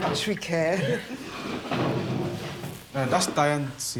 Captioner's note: chairs scraping